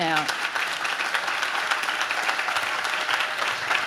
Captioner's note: audience claps